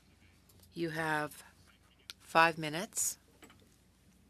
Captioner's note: speaking French